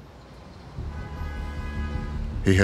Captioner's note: traffic humming, car horn honks